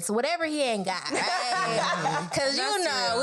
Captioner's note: all laugh